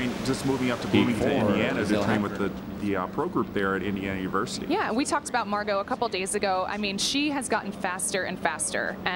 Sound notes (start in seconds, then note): 1.2 speaker announcement